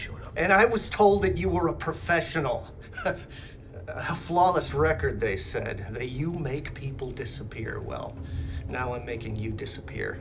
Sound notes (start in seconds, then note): 2.7 laughing